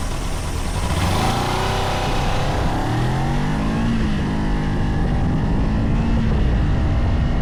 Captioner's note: acceleration noise